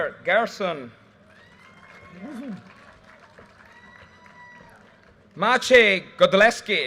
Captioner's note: audience cheers and applause